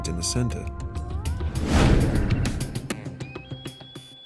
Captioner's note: loud whoosh